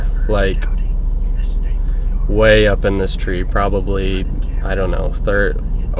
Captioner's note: whispering